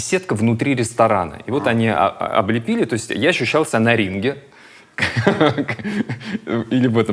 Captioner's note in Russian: смеётся